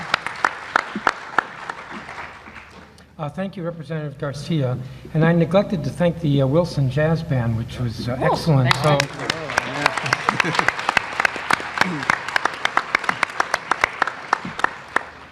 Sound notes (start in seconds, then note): 3.8 applause